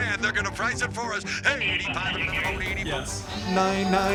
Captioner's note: rapid auctioneering